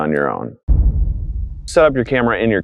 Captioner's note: thud